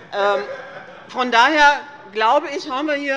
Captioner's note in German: Vereinzelt Heiterkeit